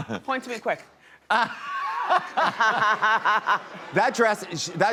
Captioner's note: all laugh